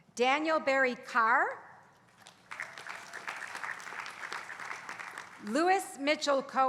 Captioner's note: applause